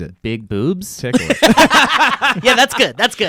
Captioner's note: laughing